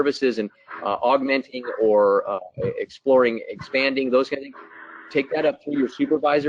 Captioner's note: static